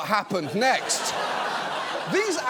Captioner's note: audience laughs